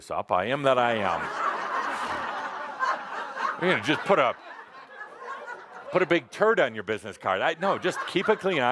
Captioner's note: laughter